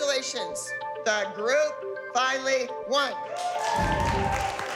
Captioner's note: applause, cheering